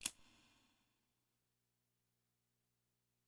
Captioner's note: clicks